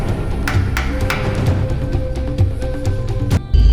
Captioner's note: gun taps